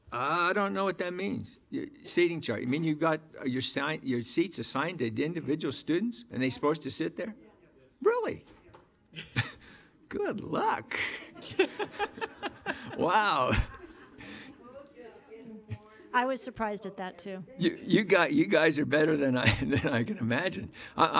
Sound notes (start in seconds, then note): 11.0 audience laughing